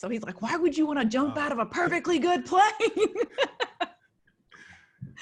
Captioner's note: laughs